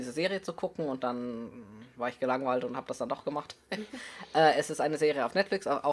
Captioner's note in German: heh